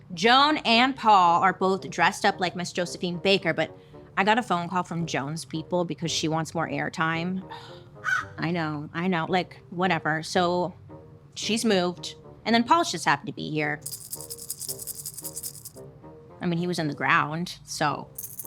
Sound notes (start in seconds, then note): 13.8 skeleton rustling